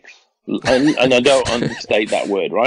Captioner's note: laughs